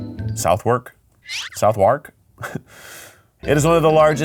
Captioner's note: laughs